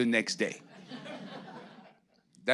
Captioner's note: audience laughing